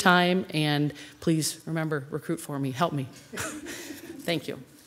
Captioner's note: chuckles